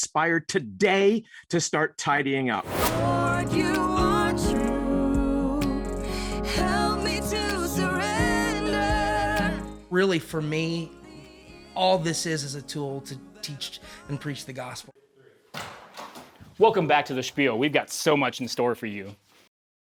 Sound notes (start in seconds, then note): 15.9 door clinks